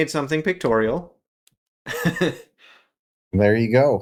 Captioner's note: laugh